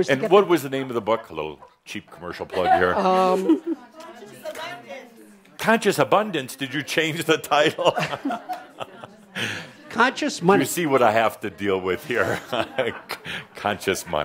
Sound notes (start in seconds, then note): 3.1 someone shouts “Conscious Abundance”; 7.9 Adamus chuckles